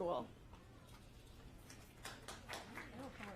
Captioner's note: applause